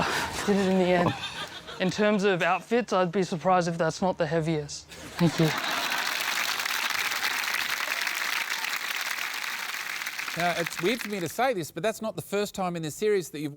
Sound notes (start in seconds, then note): 5.1 cheering, applause